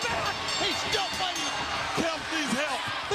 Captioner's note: bell continues ringing